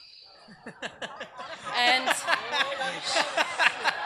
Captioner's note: audience laughs